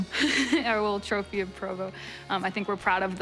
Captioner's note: laughs